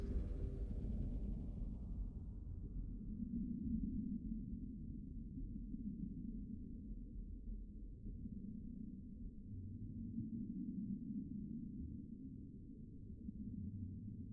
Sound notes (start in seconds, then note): 3.0 deep soft rumbling